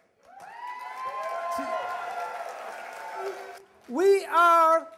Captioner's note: cheers